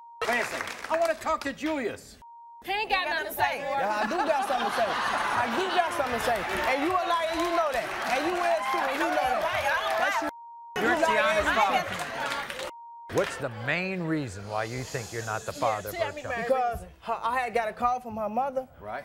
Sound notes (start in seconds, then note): 3.8 laughing